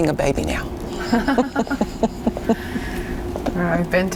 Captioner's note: laughing